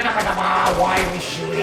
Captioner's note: excessive gunshots